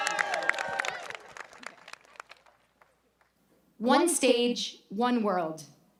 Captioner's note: applause